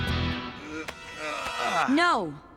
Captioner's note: grunting